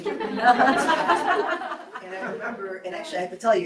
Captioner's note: group laughs